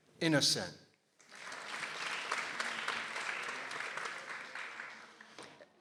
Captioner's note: people applauding